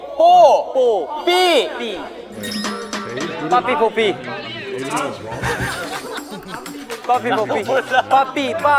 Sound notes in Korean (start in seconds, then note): 5.3 믿을 수 없다는 웃음